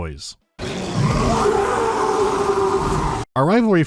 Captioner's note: Beastmen roaring